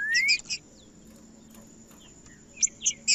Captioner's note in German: trinca ferro cantando